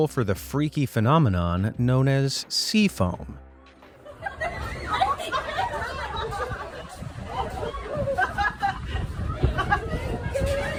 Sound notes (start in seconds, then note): 4.0 laughs loudly; 4.3 people chattering loudly